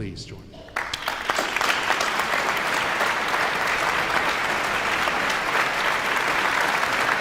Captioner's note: all applauding